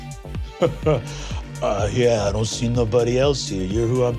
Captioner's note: chuckles